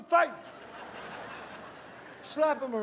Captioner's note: audience laughs